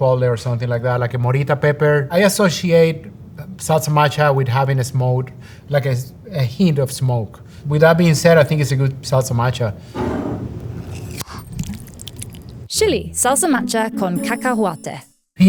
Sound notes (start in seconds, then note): 10.0 jar sliding; 10.0 lid opening; 10.9 salsa pouring